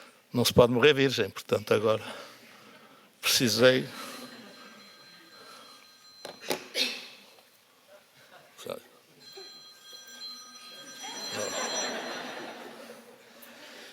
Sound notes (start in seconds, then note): 11.0 laughs